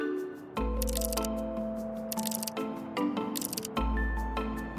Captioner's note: bright music; text clacking